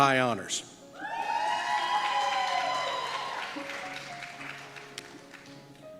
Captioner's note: applause